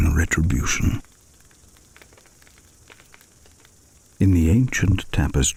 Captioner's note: fire crackling and night insects buzzing